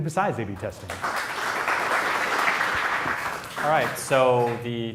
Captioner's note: applause